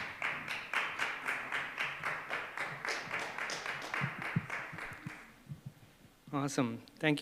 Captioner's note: applause